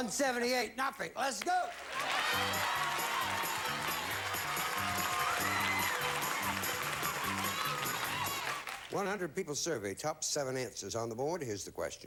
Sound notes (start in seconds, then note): 3.7 audience applauding